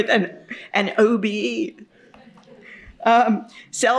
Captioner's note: chuckles